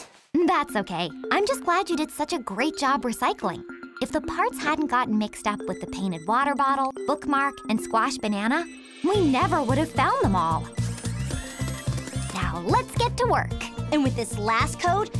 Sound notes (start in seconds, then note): 10.8 robotic beeping; 10.8 tablet beeping